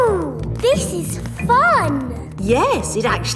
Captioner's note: none